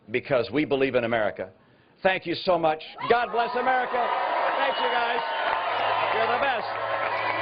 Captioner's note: cheering